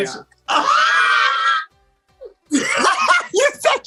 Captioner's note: laughs